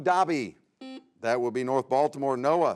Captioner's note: buzzer sounds